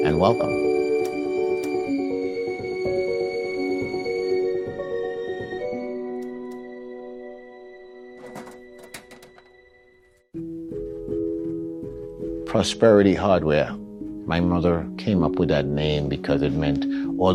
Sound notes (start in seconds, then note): 1.6 light switches; 8.1 latch closing